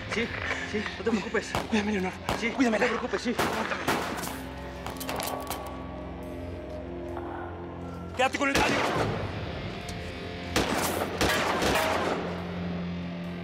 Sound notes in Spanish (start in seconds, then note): 5.2 Disparos